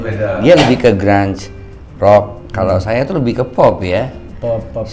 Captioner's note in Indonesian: berdehem